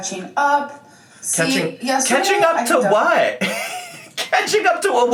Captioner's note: laughs